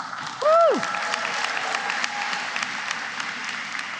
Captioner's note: applause